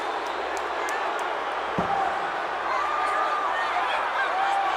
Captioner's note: crowd yelling